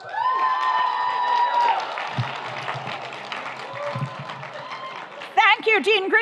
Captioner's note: audience cheers; audience applauds